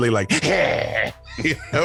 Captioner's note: growls